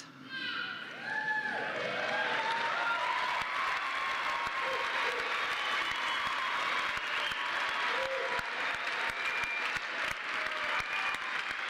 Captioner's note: applause